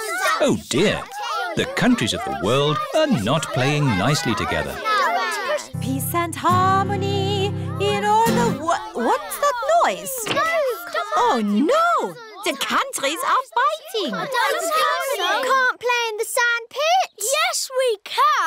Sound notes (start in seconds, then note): 7.2 commotion